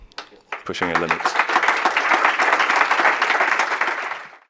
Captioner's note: applause